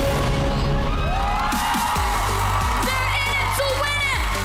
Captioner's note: audience cheering